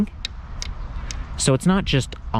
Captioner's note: clicking